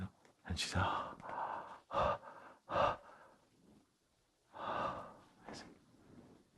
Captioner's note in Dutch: maakt een ademend geluid